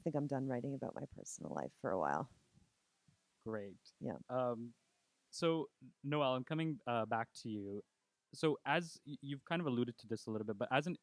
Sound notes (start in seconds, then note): 2.5 laughing